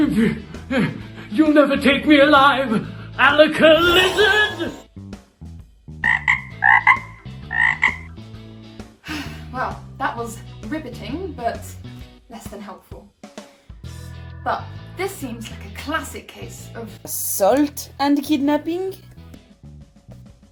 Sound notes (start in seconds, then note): 3.7 magic poof; 4.4 frog croak